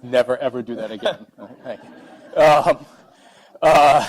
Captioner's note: laughing